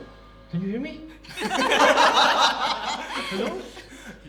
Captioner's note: everyone laughs